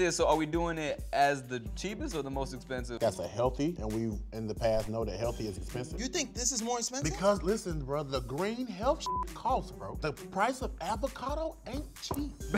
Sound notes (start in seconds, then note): 9.0 beep